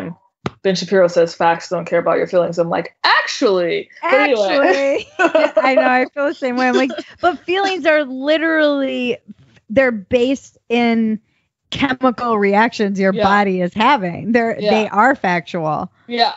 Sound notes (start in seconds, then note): 4.0 laughs